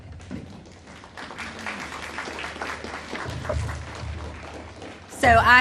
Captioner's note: audience applauding